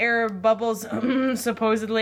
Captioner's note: clears throat